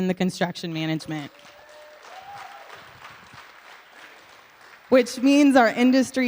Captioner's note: audience Claps